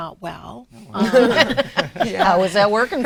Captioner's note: laughs